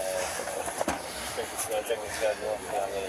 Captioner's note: radio chatter